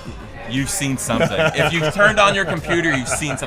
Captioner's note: laughs